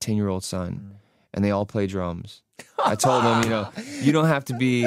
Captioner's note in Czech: smích